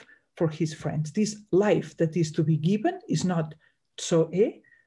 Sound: speaks in Greek

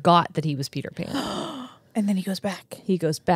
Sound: gasps

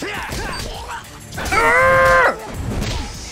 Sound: grunts

